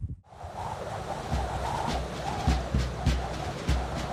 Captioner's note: wind whistling